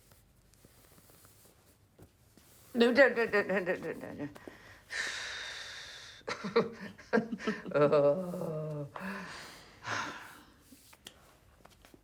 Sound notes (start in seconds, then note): 3.6 exhales in excitement; 6.3 chuckles; 8.0 sighs